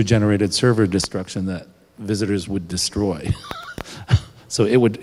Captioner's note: laughs